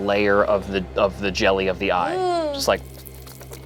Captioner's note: groans